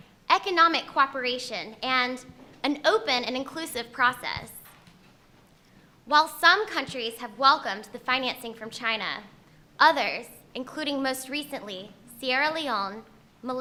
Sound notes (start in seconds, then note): none